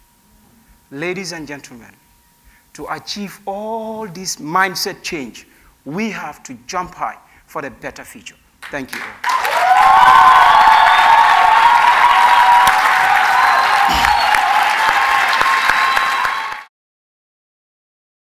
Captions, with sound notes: Ladies and gentlemen, to achieve all this mindset change, we have to jump high for the better future. Thank you. [Cheers and Applause]